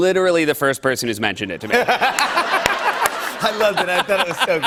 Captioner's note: laughter